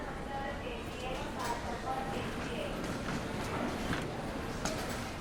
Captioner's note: airport PA arrival announcement